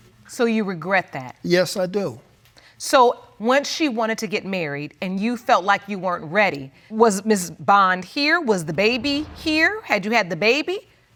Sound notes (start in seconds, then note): none